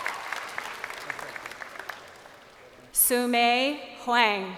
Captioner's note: crowd cheering